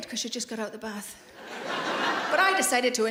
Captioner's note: laughing